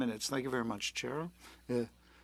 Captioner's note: speaking French